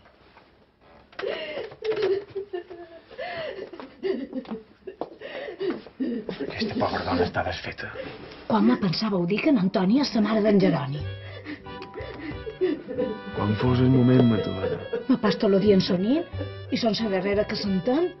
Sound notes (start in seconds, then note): 7.4 they talk low